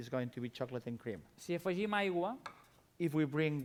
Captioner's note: non-english speech